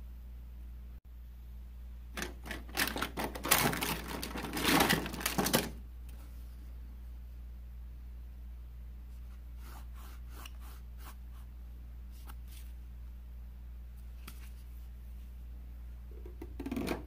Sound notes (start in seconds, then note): 2.2 shuffling; 9.7 sawing